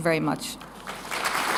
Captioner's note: applause